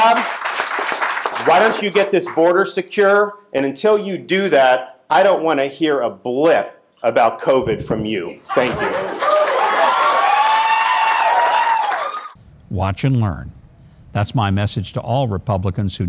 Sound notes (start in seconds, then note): 0.0 audience clapping; 8.5 people cheering